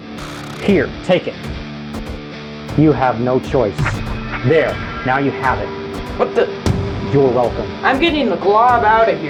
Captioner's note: transport effect